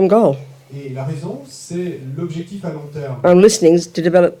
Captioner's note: French